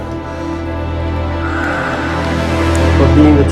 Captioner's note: deep exhale